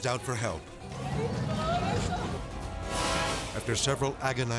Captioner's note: speaks Portuguese